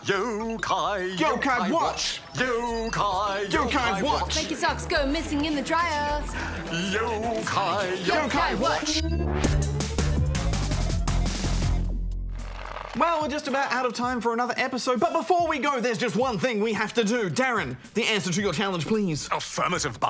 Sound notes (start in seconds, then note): 3.3 laughs